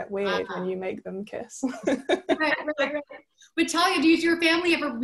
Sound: laughing

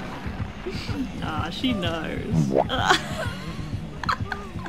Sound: laughs

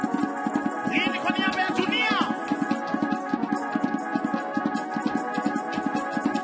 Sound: man speaking in language other than English

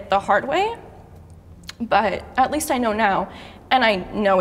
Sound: none

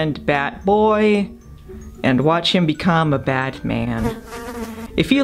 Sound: fly buzzes

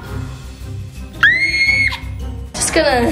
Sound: screaming

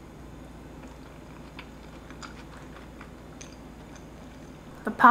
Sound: food squishing

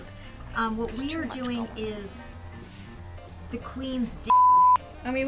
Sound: beep

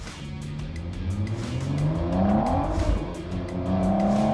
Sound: engine roars

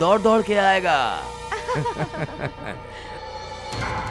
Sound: laughs

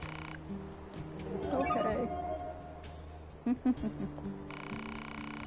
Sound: laughs

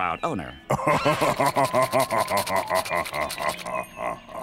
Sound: laughing

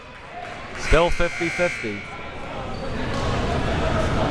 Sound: buzzer

